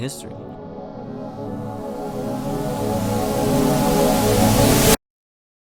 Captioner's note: static grows